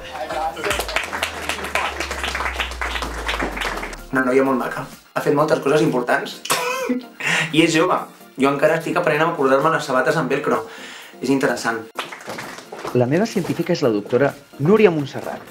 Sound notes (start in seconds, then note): 0.0 applause; 6.6 laughs